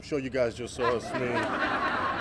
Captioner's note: laughter